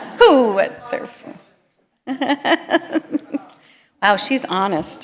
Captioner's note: laughter